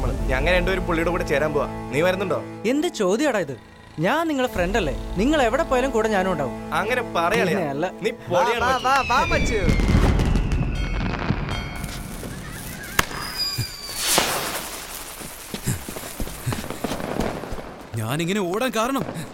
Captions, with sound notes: We both are planning to work under him. What about you? Now, what kind of question is that? I am your friend. I am always with you guys, where ever you go Now, that's more like it, buddy! Give me a high five! WARANGAL [temple bell rings] [infants laughing] The reason I am running so hard...